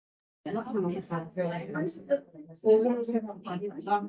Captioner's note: quiet chattering